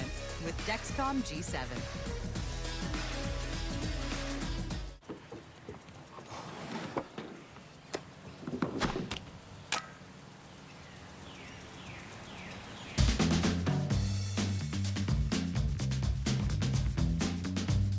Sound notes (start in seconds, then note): 3.6 cracking; 4.7 snapping; 6.8 birds chirping